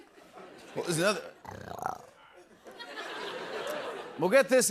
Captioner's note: snarls